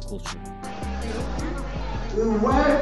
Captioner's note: filipino speaking